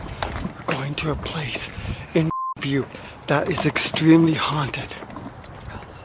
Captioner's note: beep